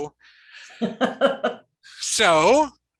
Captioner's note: laughing